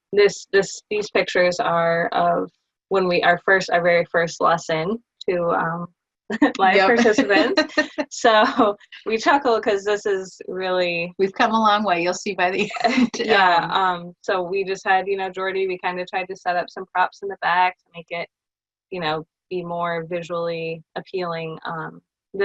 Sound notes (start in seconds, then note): 6.4 speakers laughing